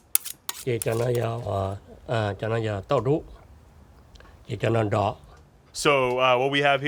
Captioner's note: speaks in Hmong